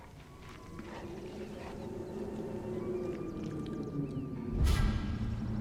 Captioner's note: wind whipping